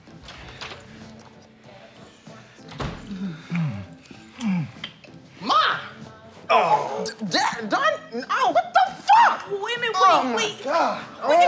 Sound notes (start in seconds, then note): 0.6 door latch clicking; 0.6 door slamming